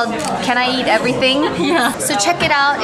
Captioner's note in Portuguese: risos